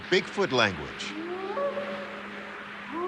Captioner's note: short howls